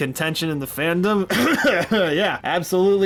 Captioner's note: coughing